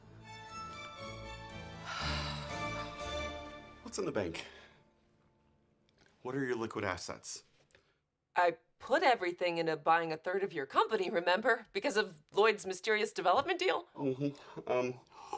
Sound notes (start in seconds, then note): 0.0 orchestral music continues; 1.8 Ava exhales